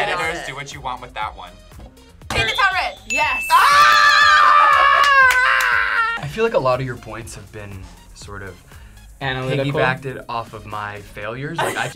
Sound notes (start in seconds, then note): 3.5 both scream